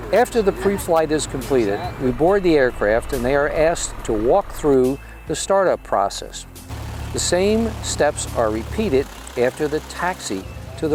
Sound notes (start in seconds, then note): 6.4 engine running